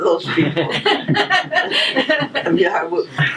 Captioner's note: audience laughter